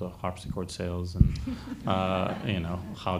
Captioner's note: audience laughs